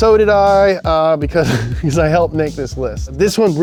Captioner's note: laughs